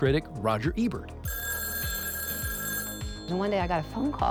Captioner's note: telephone ringing